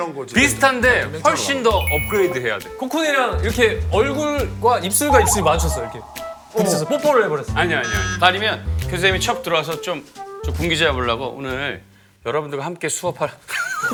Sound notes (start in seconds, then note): 4.8 lips colliding?